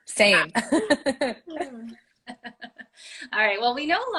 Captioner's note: laughter